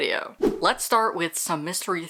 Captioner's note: whoosh